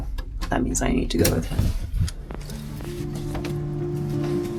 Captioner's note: door unlocks; melodic music; feet stepping